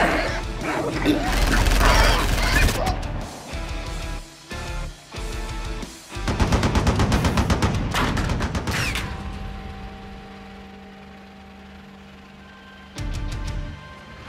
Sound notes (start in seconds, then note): 2.6 grunting; 9.9 gunshots